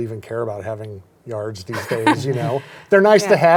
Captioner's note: laughs